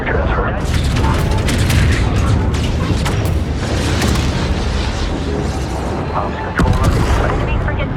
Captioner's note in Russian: гулкие выстрелы и приглушённые внутренние взрывы